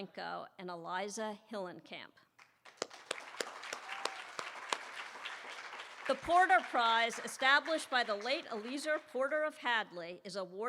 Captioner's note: applause